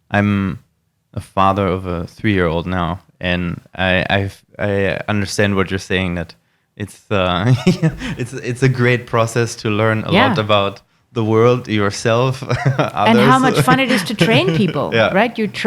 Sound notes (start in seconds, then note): 7.4 laughing